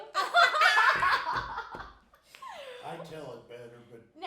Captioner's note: laughing